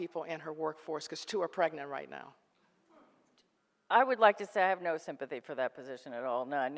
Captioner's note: none